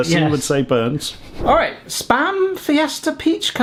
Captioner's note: scene whooshing